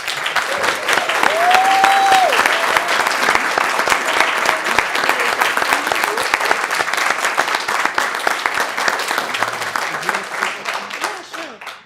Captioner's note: applause